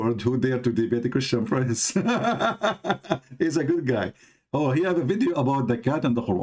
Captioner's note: gelak